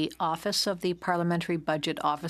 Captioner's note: speaking in French